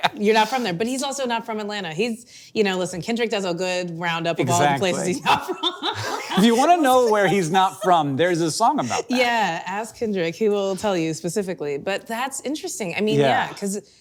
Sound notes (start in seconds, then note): 4.5 laughing